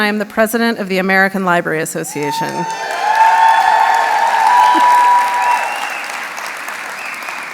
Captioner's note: audience cheers